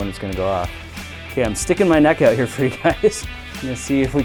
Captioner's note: chuckling